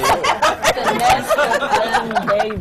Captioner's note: laughter